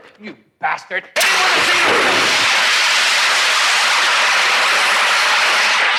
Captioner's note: gas hisses